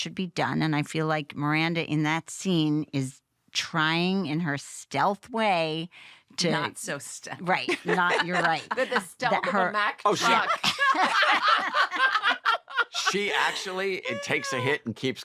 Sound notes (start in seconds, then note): 7.6 chuckles; 10.0 laughter